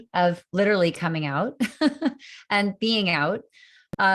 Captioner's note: laughter